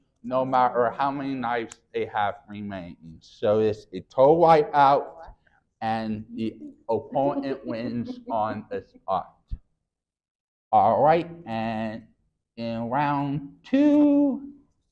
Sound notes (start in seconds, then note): 6.9 laughing